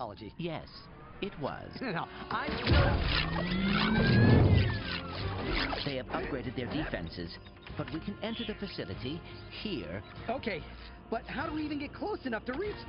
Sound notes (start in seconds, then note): 2.3 laser fire